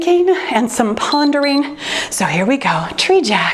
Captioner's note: timer beeps